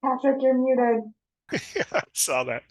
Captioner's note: chuckles